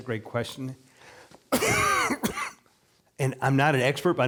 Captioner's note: coughing